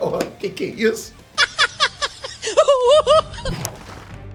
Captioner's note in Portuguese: risada